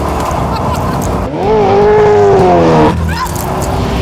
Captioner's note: engine roaring; exclaims